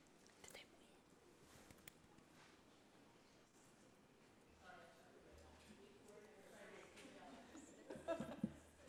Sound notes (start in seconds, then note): 5.0 people chattering